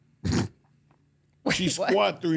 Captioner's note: Mark laughs